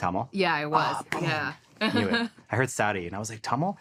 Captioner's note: chuckles